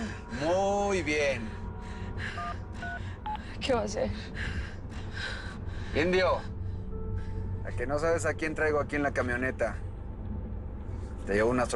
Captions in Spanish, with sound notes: - MUY BIEN. !MUY BIEN! [Sonido al marcar] - ¿QUE VA A HACER? - INDIO... ¿A QUE NO SABES A QUIEN TRAIGO AQUI EN LA CAMIONETA?